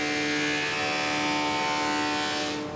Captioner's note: loud whirring